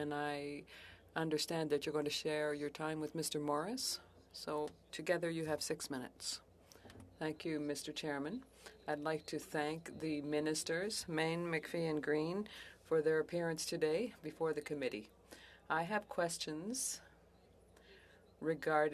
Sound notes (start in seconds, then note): 2.1 speaking French